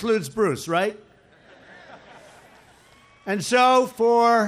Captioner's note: laughter